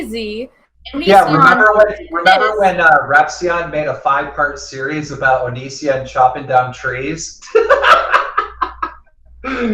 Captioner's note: laughs